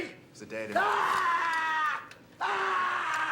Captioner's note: screaming